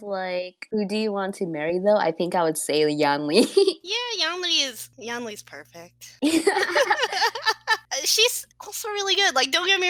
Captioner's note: dreamily